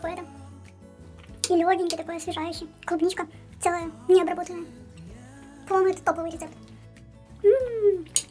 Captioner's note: cartoonish voice